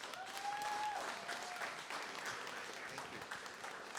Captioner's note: cheering, applause